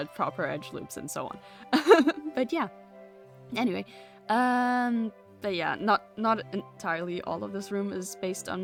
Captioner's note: laughs